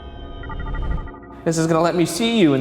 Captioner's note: device chiming